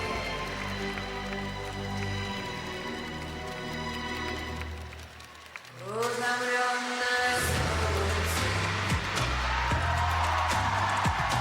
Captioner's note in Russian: ликование